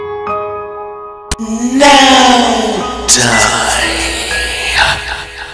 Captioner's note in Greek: Αναστενάζοντας